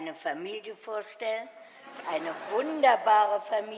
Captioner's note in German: Publikum lacht